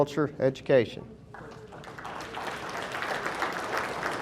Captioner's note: audience applauding